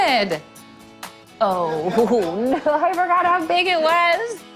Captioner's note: laughing